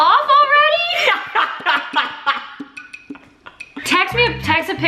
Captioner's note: laughing